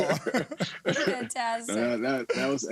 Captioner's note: laughter